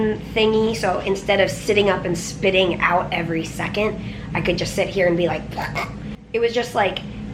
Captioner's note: suction noise